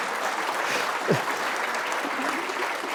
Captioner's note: laughter